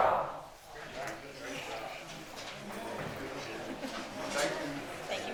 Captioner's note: attendees chatter